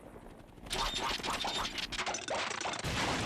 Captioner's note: engine sputtering